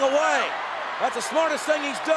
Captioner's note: audience cheers